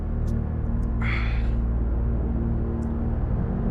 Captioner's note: sighs